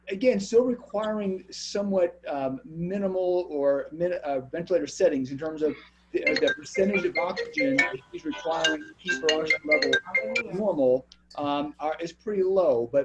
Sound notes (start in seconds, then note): 6.2 phone ringing